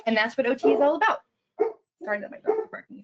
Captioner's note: dog barking